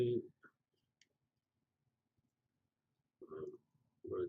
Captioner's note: pause